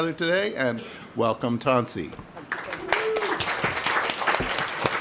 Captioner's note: applause